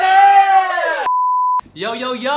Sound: cheers; beep

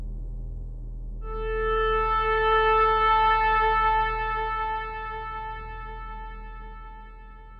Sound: sharp horn

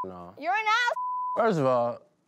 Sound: beep

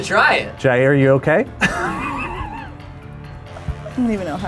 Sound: laughs

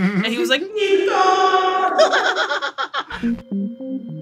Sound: laughs

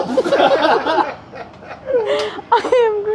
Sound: laughing

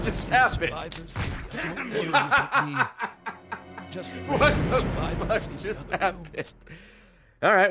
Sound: laughs

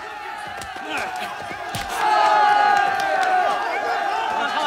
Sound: cheering

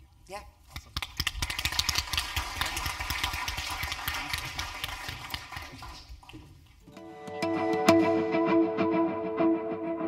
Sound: applause

